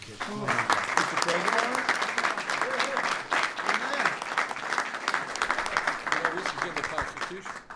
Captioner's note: applause